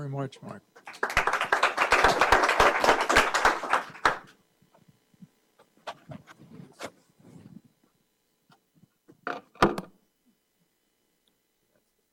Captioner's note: applause